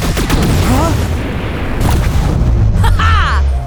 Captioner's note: loud explosion